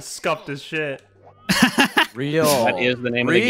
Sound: laughter

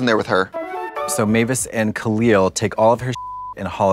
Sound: beep

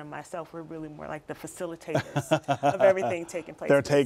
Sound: laughter

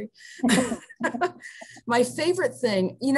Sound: laughing

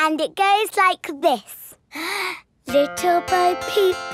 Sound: inhales

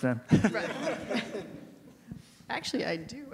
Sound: audience laughing

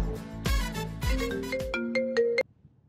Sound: phone ringing

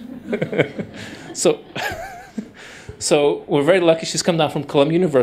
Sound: chuckles

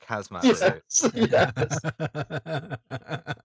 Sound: laughter

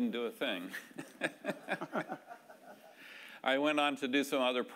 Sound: laughing

